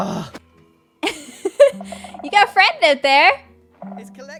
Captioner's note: laughs